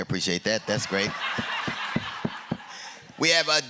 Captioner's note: laughter